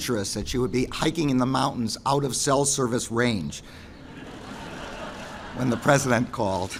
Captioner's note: laughter